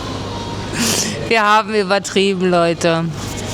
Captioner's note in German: schnauben